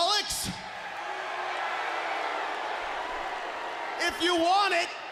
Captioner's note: crowd cheering